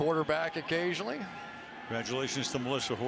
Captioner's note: cheering